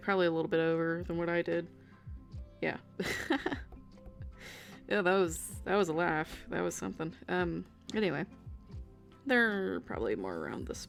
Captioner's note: weird laugh